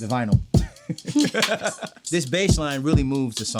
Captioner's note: both laughing